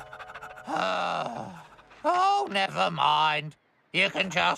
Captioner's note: panting; sighs